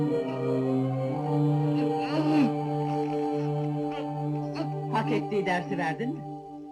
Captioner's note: Bilal panting